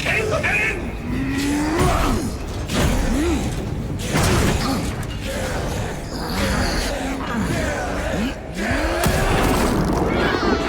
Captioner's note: groaning; screaming